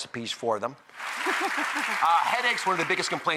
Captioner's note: audience applause; chuckles